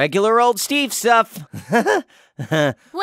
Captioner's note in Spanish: risa nerviosa